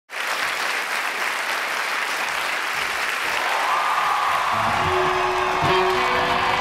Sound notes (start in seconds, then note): 0.1 audience applauding; 3.0 audience cheering; 6.4 rock music